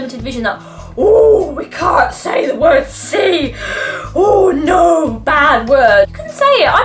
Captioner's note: gasps